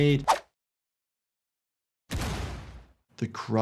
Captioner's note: gun popping